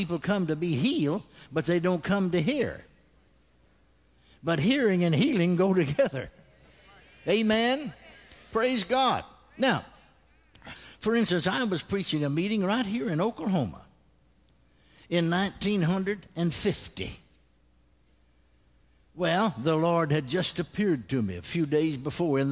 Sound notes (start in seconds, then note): 8.5 congregation responds